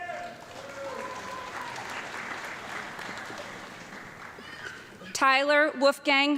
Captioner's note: audience clapping and cheering